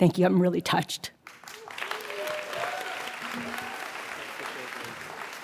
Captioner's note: audience applauds